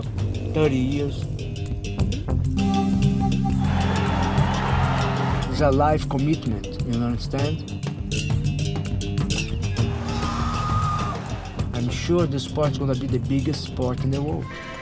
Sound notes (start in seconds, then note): 3.5 crowd cheering; 8.2 shouting